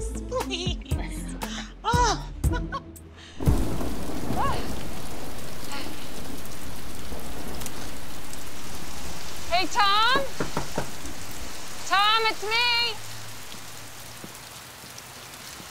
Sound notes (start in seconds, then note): 0.4 chuckles; 3.7 thunder rumbling